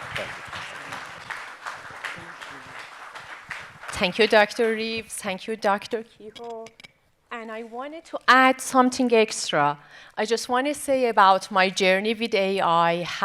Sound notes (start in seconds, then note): 0.0 audience applauding; 1.9 guests chattering